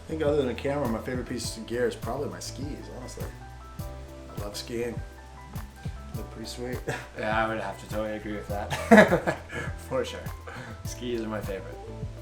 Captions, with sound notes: I think, other than the camera, my favorite piece of gear is probably my skis, honestly. I love skiing. Look pretty sweet. [chuckles] Yeah I would have to totally agree with that. [laughs] For sure. Skis are my favorite.